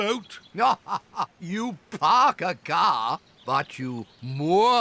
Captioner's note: laughs